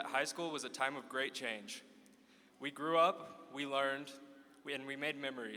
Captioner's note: none